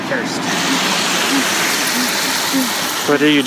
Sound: makes anxious sounds

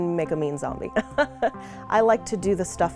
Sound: chuckles

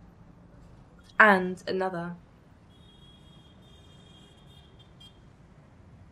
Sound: car horn beeping

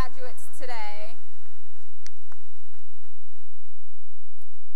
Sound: applause

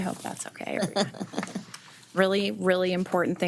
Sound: chuckling

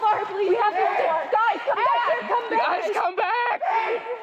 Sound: all yelling at once

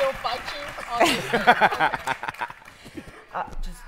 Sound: laughter

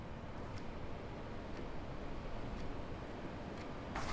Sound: clock ticking

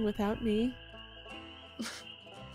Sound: scoffs

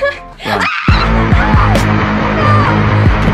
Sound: screams

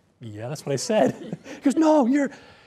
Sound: laughter

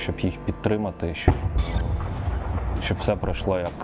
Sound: sound of a shot towards the orcs

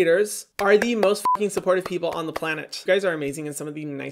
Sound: beep

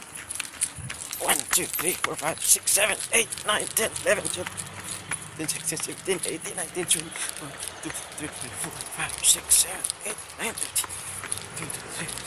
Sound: mumbling numbers

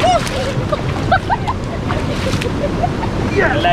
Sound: laughing

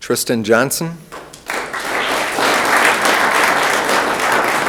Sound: room applauds

